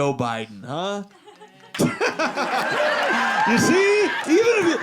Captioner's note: audience laughing